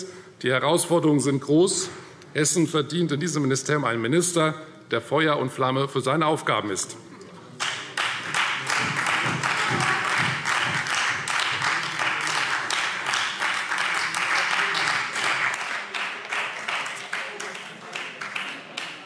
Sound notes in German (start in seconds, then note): 7.6 Beifall Freie Demokraten